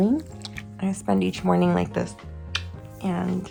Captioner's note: kissing sound